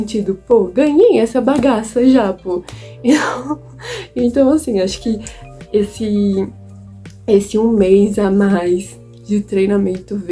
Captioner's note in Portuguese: risos